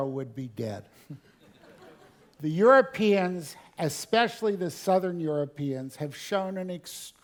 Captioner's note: laugh